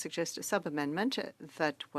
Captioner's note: speaking French